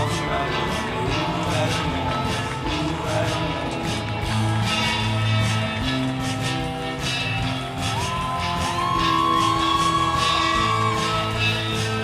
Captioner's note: applause